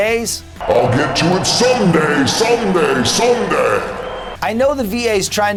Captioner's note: deep announcer voice